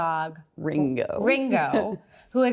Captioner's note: chuckles